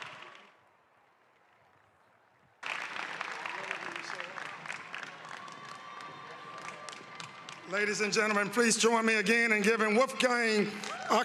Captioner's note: applause